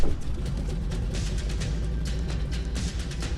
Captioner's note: plane engine revving; upbeat music